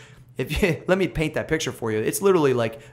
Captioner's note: laughs